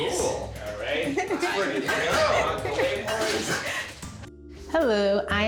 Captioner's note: men chattering